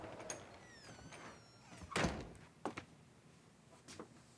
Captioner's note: door creaking